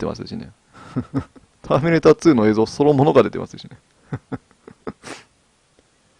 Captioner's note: laughs; laughs